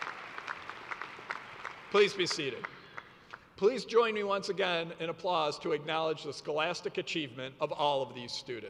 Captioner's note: cheers and applause